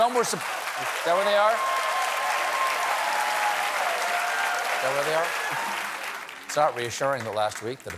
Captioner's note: applause